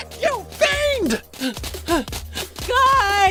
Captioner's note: panting